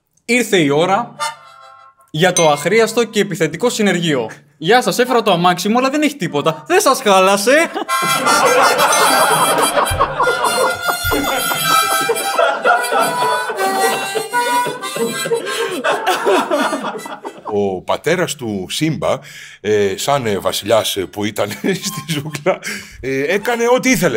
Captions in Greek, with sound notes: Ήρθε η ώρα για το αχρίαστο και επιθετικό συνεργείο Γεια σας έφερα το αμάξι μου αλλά δεν έχει τίποτα Δεν σας χάλασε (γέλια) Ο πατέρας του Σύμπα, σαν βασιλιάς που ήταν στη ζούγκλα, έκανε ό,τι ήθελε.